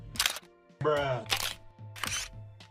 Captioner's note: camera shutter; camera snap; camera flash